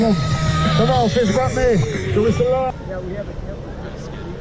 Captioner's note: crowd shouting